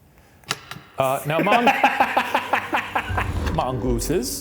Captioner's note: laughs